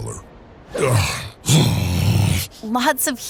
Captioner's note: groaning